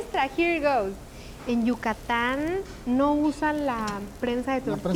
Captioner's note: speaking Spanish